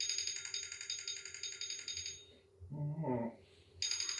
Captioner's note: alarm clock ringing